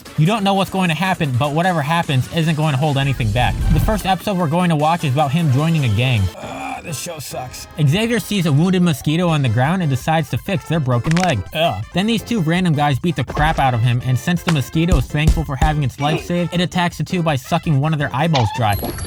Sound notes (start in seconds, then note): 6.4 groans; 11.0 noise of disgust; 11.1 crunch